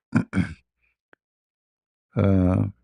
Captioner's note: berdehem